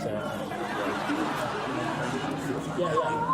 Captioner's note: studio audience laughs